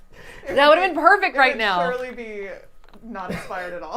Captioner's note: laughter